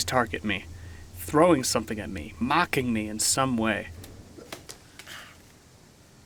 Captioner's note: gasps